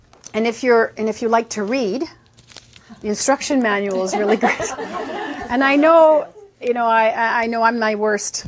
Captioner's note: laughing